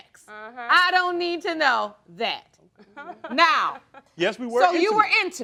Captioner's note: laughing